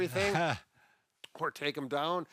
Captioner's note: laughs